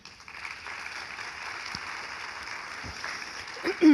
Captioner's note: audience applauding